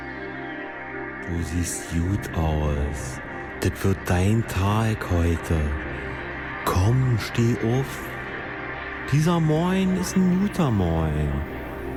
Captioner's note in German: Dialekt